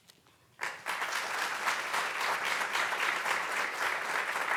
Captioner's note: audience clapping